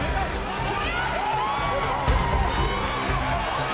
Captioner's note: croad Roars